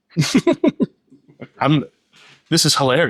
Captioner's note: laughter